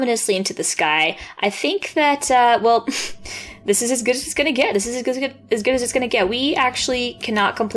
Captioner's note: amused exhale